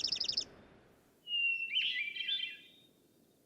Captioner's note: bird singing